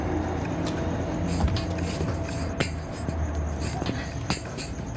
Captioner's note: rattling